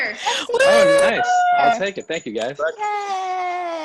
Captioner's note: teammates cheering